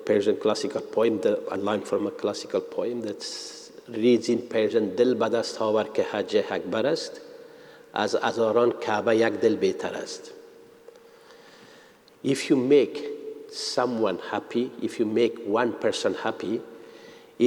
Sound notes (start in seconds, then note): 6.0 speaks in Persian